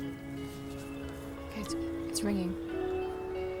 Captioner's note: ringing